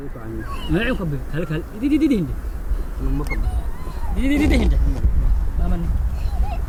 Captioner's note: speak in foreign language